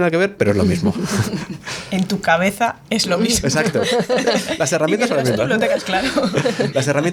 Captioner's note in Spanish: risas